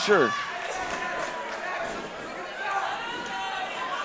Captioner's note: crowd shouts